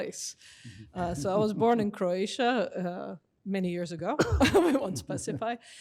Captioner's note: laughs